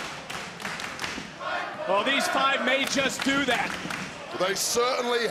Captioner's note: crowd chants "fight forever"